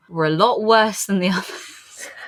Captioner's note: laughs; laughing